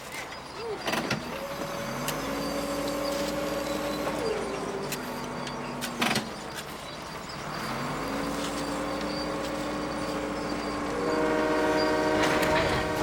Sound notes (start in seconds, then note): 10.8 train Horn Blaring